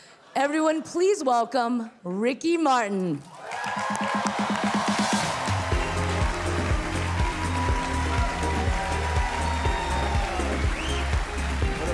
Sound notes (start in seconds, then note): 3.3 audience cheering; 3.9 cheerful music